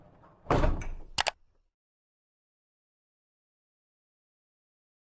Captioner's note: computer mouse click